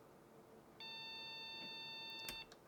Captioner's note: beeping